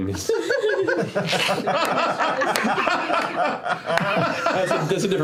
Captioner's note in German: Gelächter